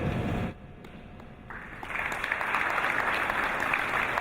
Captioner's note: applause